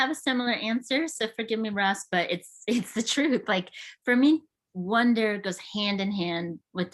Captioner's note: chuckles